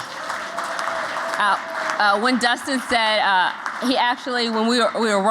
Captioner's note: applause